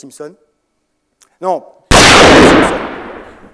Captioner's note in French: coup de feu